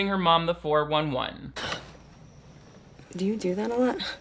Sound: Bella gasping

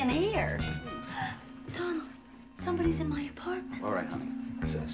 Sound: gasps

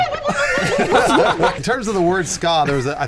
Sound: laughing

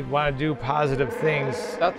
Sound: chewbacca growls

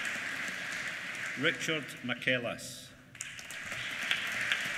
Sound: applause

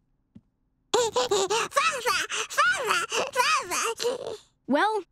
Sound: giggling

